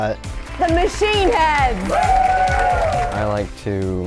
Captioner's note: crowd cheering